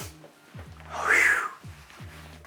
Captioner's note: whistles